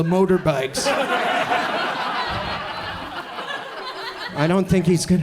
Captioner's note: audience laughs